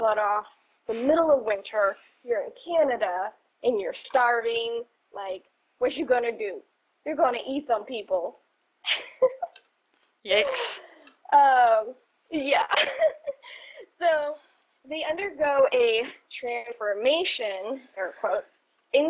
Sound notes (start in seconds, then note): 12.4 giggles